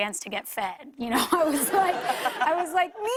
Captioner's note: laughter